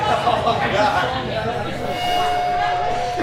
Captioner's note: chatter